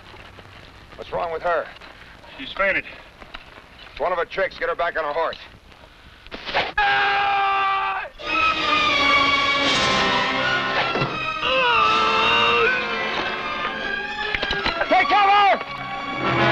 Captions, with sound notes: - What's wrong with her? - She's fainted. - One of her tricks, get her back on her horse. (arrow whooshes) (man screams) (suspenseful music) (arrow whooshing) (man groans) Take cover!